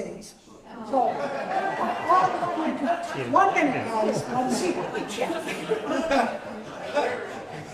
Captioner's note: laughter